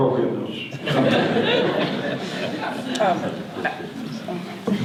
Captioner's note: audience laughter